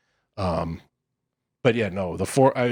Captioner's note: laughs